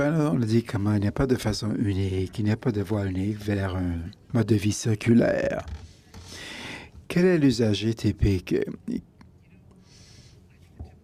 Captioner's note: speaking in French